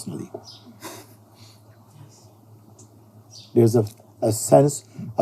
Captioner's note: nervous laughter; whispering voice